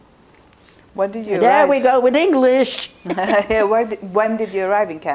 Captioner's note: laughing